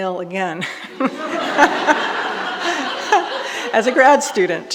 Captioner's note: all laughing